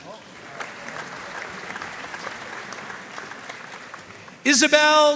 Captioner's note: audience cheering and applauding